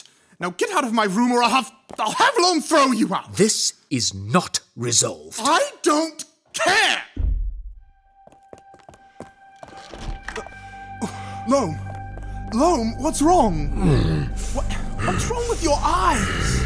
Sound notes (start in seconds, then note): 7.1 heavy thud; 9.5 rushed footsteps and door opening; 13.6 Loam breathing heavily